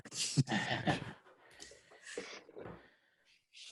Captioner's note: chuckles